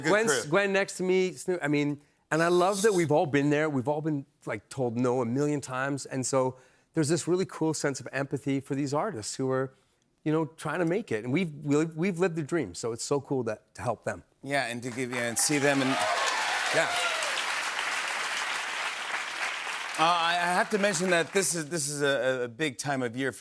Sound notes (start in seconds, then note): 14.9 cheers and applause